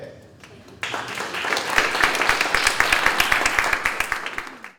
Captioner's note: audience clapping